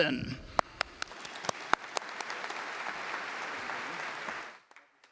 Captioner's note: audience applauding